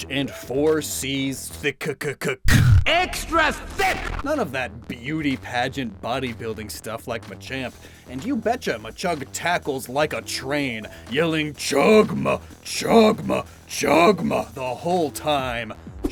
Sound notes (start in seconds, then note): 2.5 explosion SFX